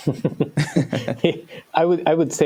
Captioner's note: laughter